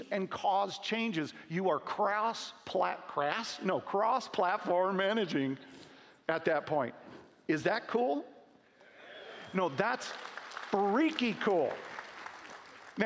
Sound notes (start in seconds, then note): 9.6 applause